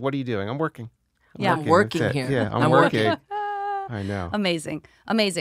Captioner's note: laughs